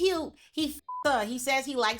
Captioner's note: beep